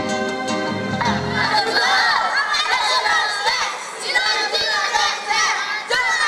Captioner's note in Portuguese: Crianças gritam indistintamente